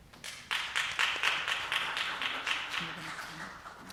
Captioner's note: audience applause